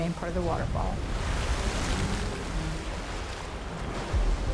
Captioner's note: water splashing